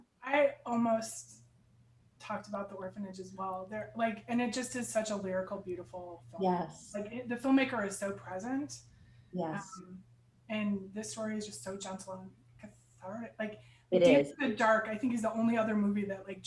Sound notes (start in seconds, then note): none